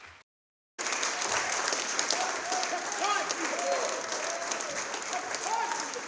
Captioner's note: audience applauds and shouts